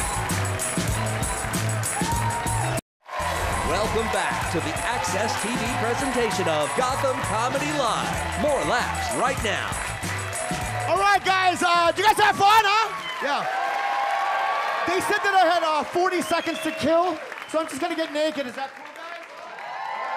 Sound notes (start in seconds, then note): 13.9 audience cheer